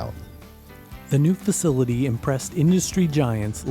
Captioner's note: voiceover